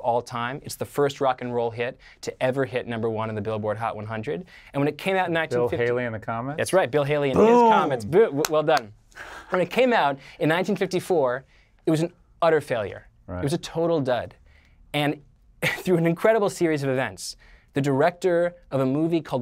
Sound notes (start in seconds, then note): 7.3 rejoicing; 8.4 clapping